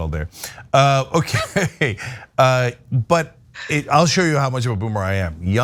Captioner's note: laugh